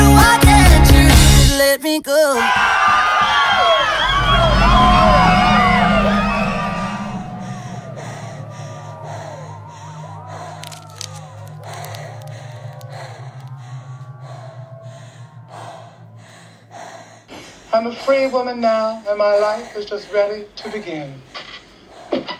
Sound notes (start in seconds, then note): 2.8 audience cheering; 8.0 person breathing; 22.2 shoes clanking